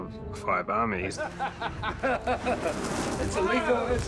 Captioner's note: jackson laughs